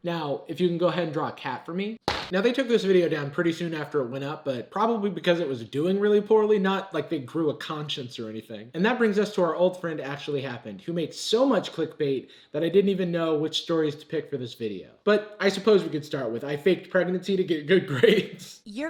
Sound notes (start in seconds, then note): 2.1 bangs